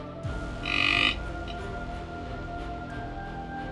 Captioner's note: deer call grunting; intense music